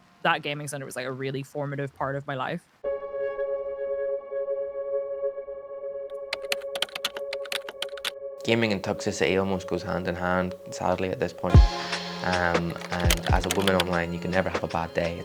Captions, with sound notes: that gaming centre was a really formative part of my life. [tense music] [keyboard typing] Gaming and toxicity almost goes hand in hand. Sadly, at this point. And as a woman online you can never have a bad day,